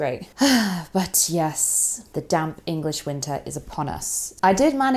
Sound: sighs

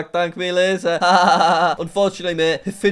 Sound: laughs

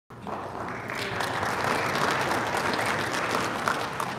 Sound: audience applauding

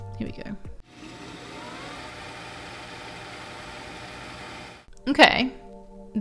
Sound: computer whirring

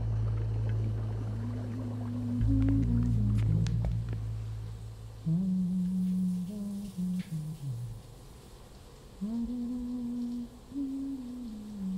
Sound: humming from behind the bathroom door

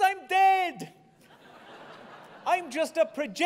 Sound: laughter

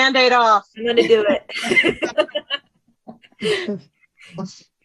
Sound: both chuckling

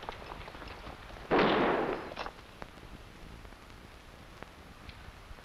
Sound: gunshots blasting

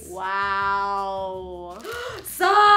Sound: gasp

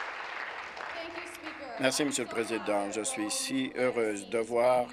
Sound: applause

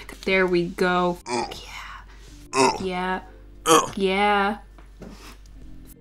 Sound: grunt

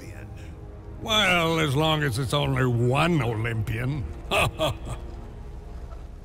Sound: laughs

